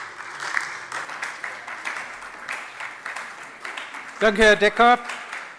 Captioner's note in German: Beifall bei der SPD und der LINKEN